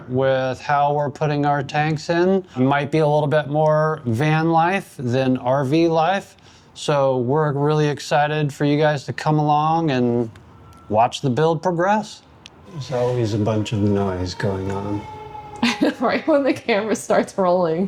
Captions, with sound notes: with how we're putting our tanks in. Might be a little bit more van life than RV life. So we're really excited for you guys to come along and watch the build progress. There's always a bunch of noise going on. (car horn honking) Right when the camera starts rolling.